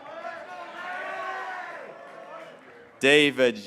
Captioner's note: graduates cheering